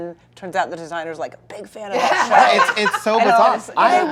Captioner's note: laughter